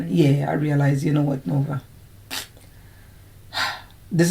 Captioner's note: sighs